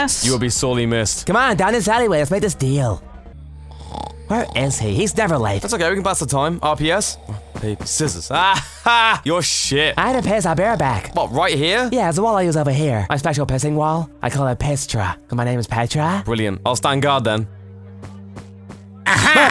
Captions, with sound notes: You will be sorely missed. C'mon, down this alleyway. Let's make this deallll. *snoring* Where is he, he's never late! That's okay, we can pass the time. RPS? Rock, paper, scissors, ah ha! You're shit! I have to piss, I'll be right back. What, right here? Yeah there's a wall I use over here. My special pissing wall. I call it PISStra. Cuz my name is PETRA. Brilliant. I'll stand guard then. AHAAAAAA!